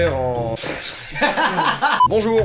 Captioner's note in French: rires